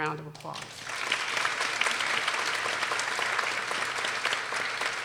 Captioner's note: people applauding